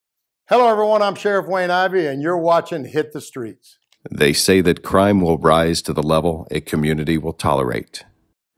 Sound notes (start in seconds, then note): 4.2 voiceover